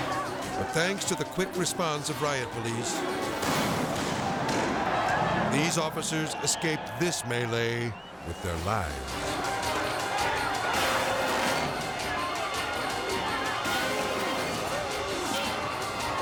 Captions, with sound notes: But thanks to the quick response of Riot Police, (gunshots booming) these officers escaped this melee with their lives. (people clamoring) (firecrackers crackling) (intense music)